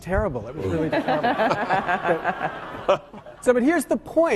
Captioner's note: laughing